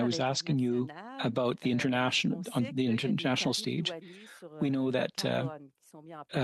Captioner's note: speaking French